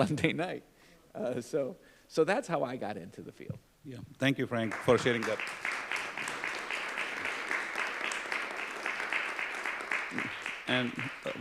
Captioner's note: applause